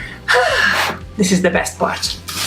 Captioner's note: exhales